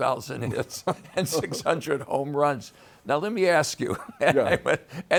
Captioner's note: both laughing; laughs